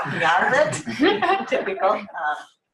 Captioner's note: laughter